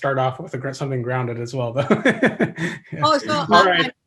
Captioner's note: laughs